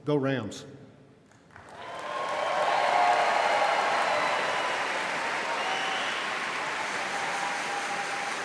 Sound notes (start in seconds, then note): 1.5 audience cheering and applauding